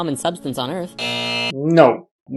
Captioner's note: buzz